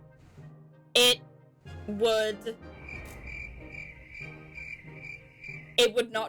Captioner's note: crickets